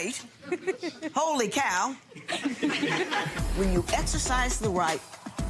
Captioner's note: laughing